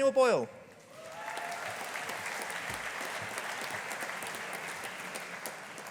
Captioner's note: audience applauding